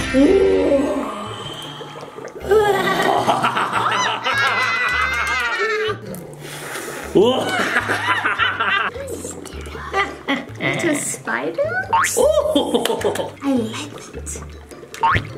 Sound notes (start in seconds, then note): 1.5 potion bubbling; 2.4 evil laughing